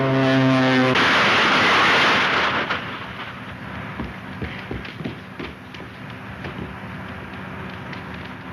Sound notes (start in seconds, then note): 0.0 plane crashes; 4.4 punches thud